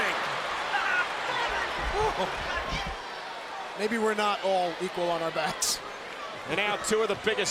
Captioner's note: applause